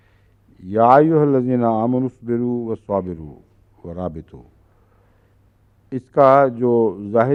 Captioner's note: Arabic